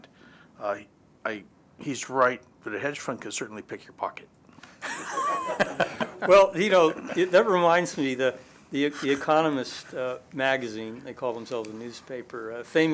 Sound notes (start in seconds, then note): 4.8 laughter